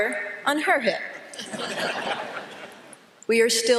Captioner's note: laughter